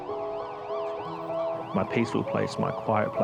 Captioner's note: sirens